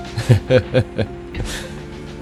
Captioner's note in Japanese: 苦笑